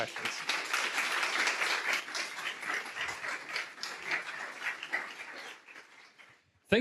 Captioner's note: applause